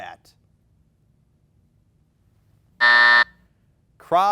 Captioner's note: buzzer buzzing